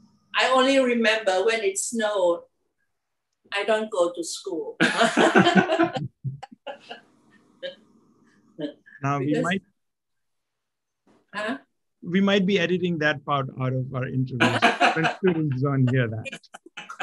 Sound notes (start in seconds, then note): 4.8 laugh